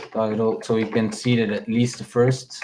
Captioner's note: keyboard clacking